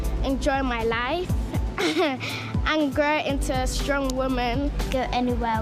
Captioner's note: laughter